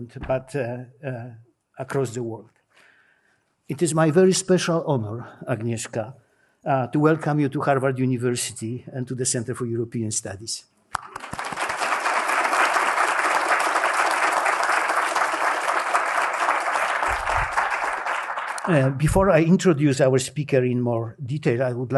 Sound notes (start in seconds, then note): 10.9 applause